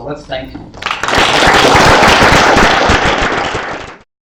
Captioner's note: applause